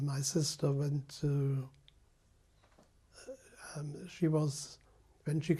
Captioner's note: pauses for 3 seconds